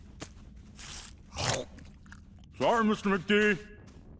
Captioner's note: chomping